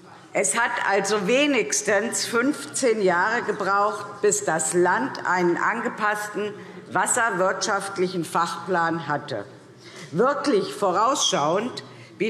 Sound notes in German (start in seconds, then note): none